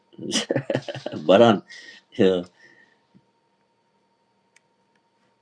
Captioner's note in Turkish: kahkaha